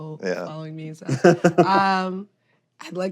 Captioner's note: laughs